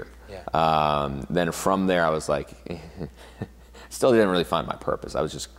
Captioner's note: laughs